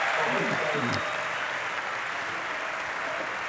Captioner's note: applause